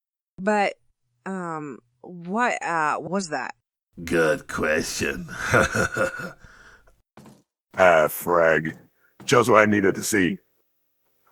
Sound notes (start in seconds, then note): 4.1 chuckles